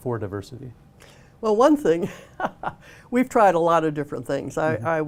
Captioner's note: laughter